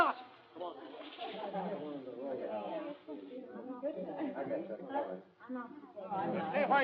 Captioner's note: concerned chatter